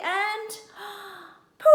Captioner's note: gasp